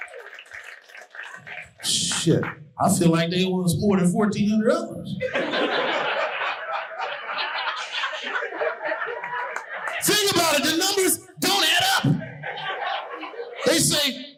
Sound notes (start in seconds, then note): 0.0 audience cheering and applauding; 5.1 audience laughing